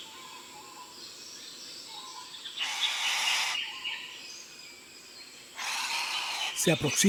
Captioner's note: bowerbird sounds